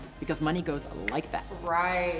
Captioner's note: snaps fingers